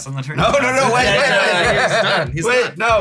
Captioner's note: laugh